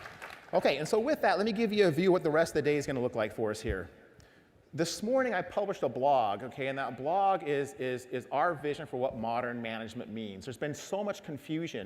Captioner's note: applause